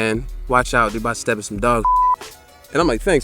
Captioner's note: beep